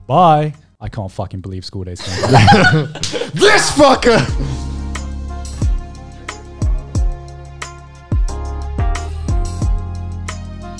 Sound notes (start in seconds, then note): 2.0 laughing loudly; 4.5 upbeat music